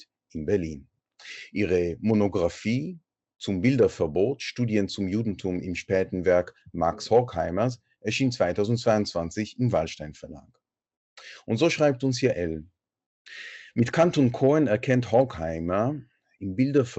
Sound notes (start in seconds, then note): 7.1 in German